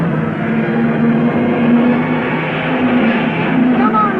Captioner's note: cars revving